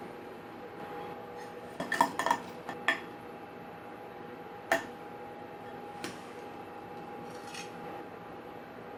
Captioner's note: sound of plating the pie ~